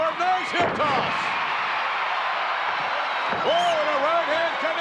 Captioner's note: audience cheering